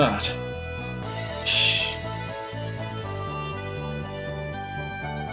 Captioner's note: laughs softly